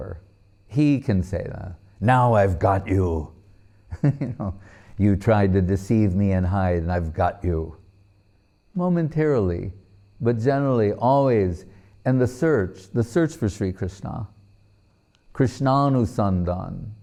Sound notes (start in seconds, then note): 3.3 laughing